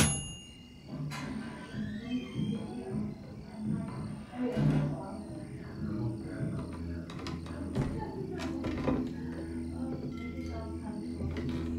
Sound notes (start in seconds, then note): 0.0 typewriter dings; 0.9 crickets chirping; 1.4 people chattering